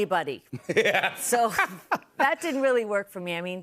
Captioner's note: laughs